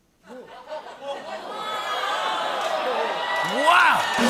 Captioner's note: audience groaning